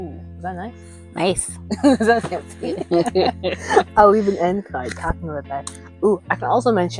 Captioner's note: laughing